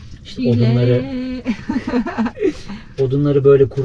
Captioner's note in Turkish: kahkaha